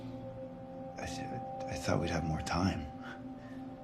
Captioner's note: stammering